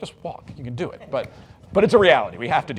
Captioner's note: audience laughs